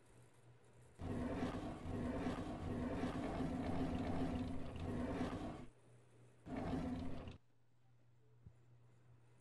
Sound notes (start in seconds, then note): 1.0 drawers opening and closing